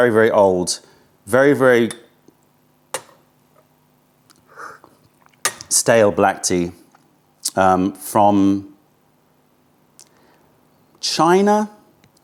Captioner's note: sips tea